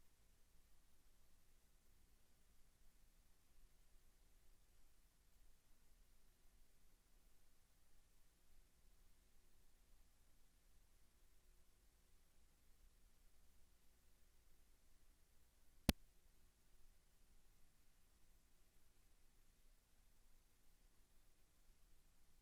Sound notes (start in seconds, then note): 0.1 silence